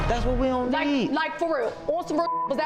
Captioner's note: beep